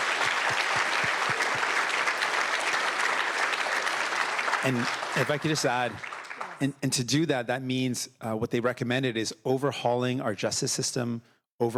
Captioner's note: applause